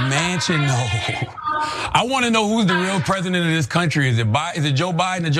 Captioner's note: laugh